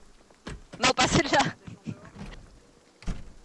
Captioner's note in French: rires